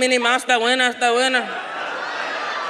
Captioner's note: speaks in a foreign language; audience laughs